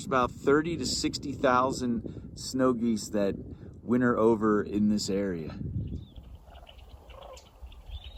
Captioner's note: various birds calling